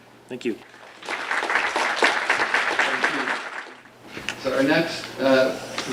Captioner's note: audience applauds